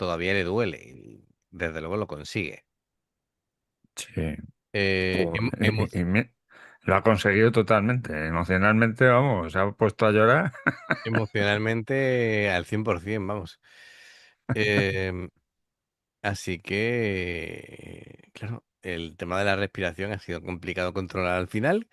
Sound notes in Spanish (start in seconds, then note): 10.4 risas